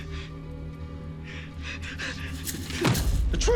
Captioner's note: breathing shakily